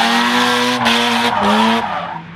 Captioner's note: engine revs; tires squealing